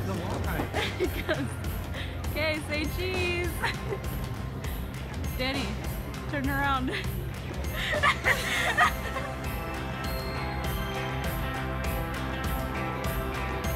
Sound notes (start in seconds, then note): 7.7 cameraperson laughing; 10.2 joyful holiday music